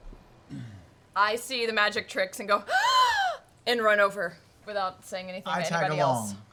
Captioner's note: loud gasp